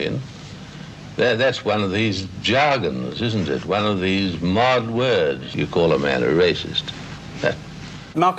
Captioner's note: scoffs